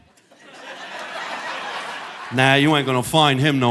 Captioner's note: audience laughing